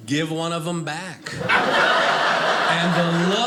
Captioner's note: audience laughing